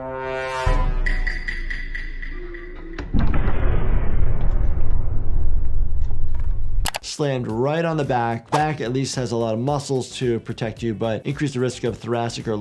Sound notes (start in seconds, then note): 0.0 dramatic music; 2.9 explosion booming